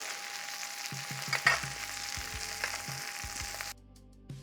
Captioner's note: sizzling sound